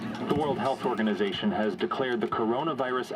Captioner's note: radio Announcer